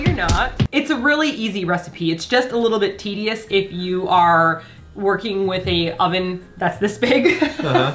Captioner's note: chuckles